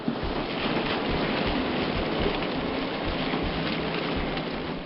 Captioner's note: aluminum cubes banging